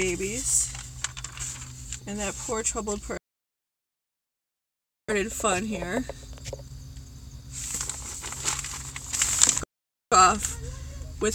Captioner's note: camera glitches